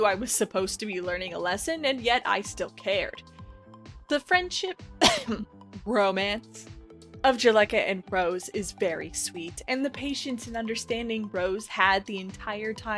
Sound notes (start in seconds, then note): 5.0 cough